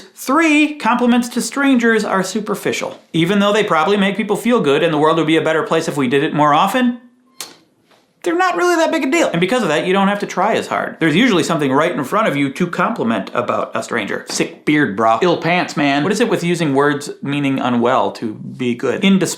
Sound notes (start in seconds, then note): none